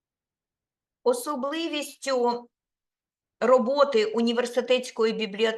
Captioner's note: speaking Ukrainian